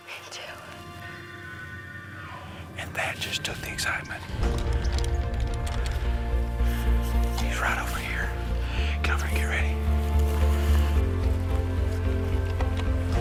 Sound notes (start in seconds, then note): 1.9 animal sounds; 4.9 upbeat music; 10.6 upbeat music